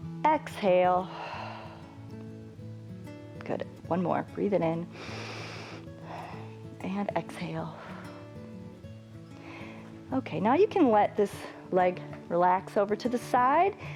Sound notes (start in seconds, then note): 1.0 exhales; 4.9 inhales; 8.0 exhales